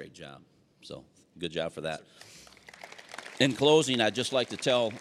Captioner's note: applause